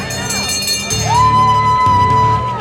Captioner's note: ringing bell